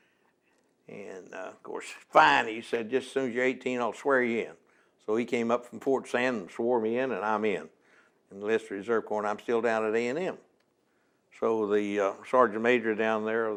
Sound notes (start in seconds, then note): none